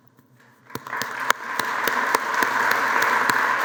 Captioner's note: applause